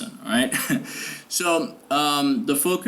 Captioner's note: laughs